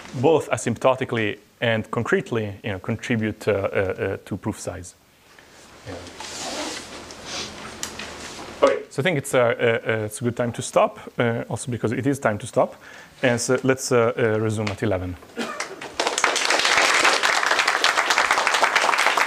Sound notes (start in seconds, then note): 15.6 applause